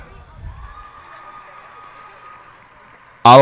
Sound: cheers and applause

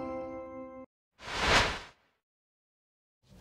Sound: swoosh

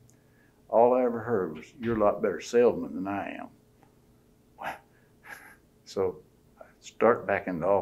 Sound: laughs

